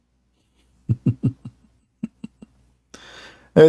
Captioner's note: Ketawa